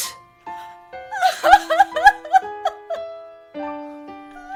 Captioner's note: Liz cries